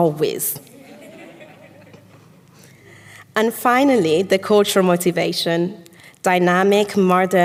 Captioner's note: audience laughs